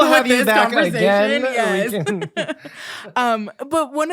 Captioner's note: giggling